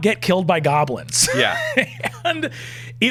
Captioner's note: laughing